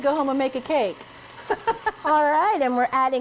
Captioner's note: laughs